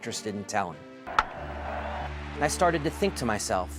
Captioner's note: cheering